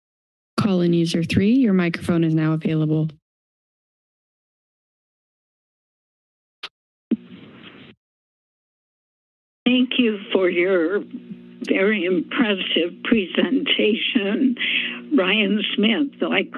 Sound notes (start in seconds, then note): 7.1 static noise